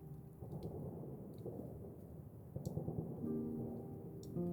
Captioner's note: faint machine gun firing; slow sad music